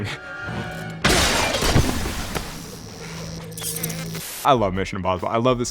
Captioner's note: glass shattering